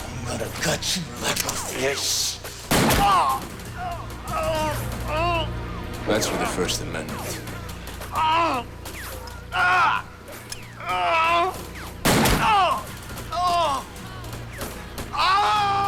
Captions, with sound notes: I'm gonna gut you like a fish. (gun fires) (Lamont cries out) - That's for the First Amendment. (Lamont groans) (gun fires) (Lamont cries out)